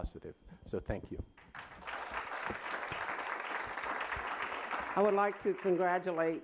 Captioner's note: applause